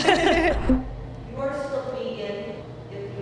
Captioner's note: all laugh